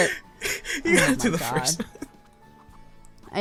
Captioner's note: giggles; cry